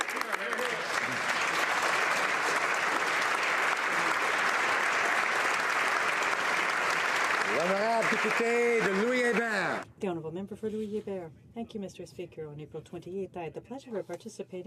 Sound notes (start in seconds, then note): 4.4 applause